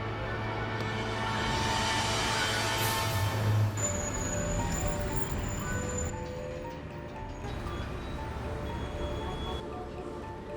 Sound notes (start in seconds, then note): 3.9 horns honking; 3.9 traffic humming